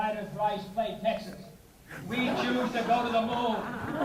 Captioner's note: laughing